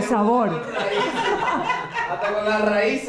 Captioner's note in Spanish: Risas